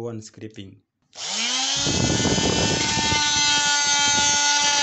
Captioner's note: machine whirring